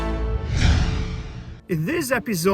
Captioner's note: animation whooshing